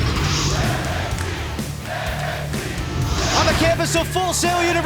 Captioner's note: crowd cheering